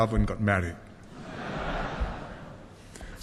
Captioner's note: laughter